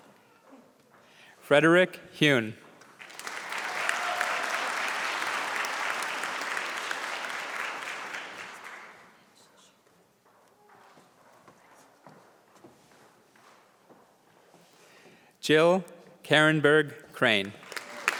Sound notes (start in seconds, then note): 2.8 applause; 17.2 applause